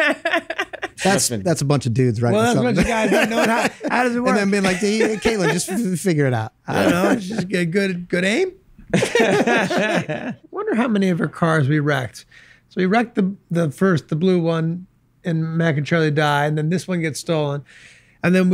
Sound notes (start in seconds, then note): 0.0 laughs; 8.9 group laughs